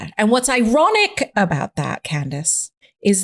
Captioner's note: none